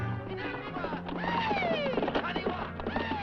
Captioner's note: men shouting